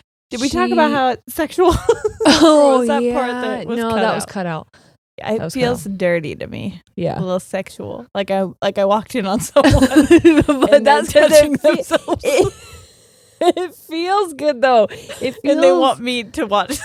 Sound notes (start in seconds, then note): 1.6 laughing; 11.1 both laughing